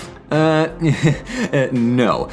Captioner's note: chuckle